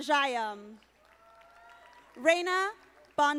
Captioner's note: audience applauding